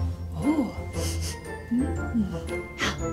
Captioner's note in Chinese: 嗅聞聲